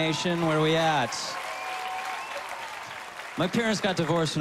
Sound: whistling

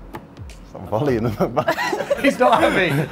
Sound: laughter

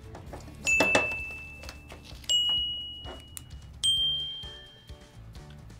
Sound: bells ring

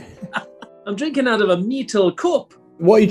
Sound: bad scottish accent

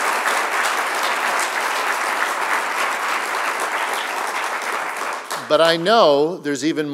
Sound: applause

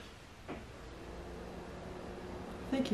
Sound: loud fridge whirrrrrr

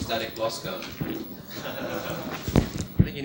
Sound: laughter

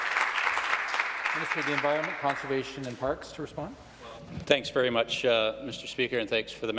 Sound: some Applause

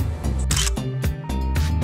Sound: photo click

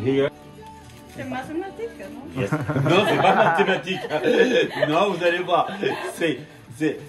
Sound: laughs

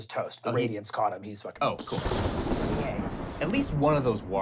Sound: explosion

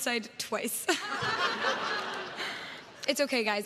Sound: crowd laughs

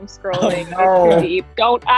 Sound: laughing

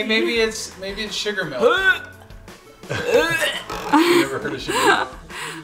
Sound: imitates vomiting

